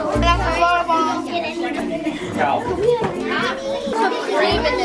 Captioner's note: people chattering